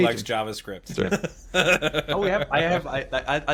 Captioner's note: laughing